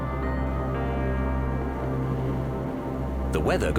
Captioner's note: wind howling